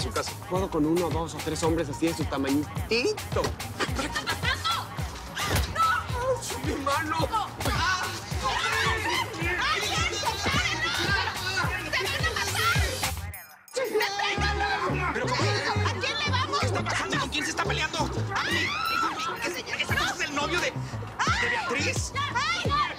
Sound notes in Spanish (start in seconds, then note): 7.2 Gritos y exclamaciones; 18.2 Gritos y exclamaciones